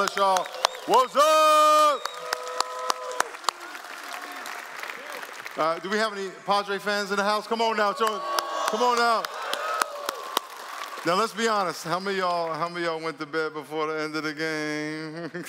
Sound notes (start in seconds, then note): 4.7 applause; 9.4 cheering and Applause; 15.0 laughter